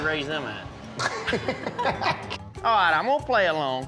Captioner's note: laughing